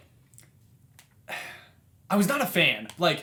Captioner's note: exhales